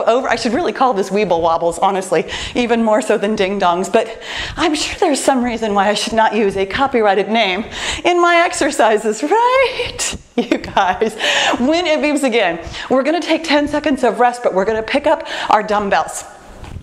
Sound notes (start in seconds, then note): 10.4 laughs